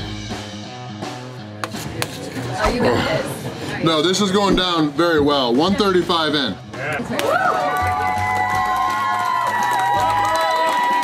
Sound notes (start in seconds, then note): 1.5 crowd; 6.8 crowd cheering